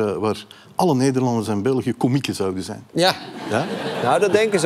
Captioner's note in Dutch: gelach